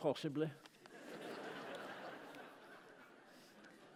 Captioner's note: laughter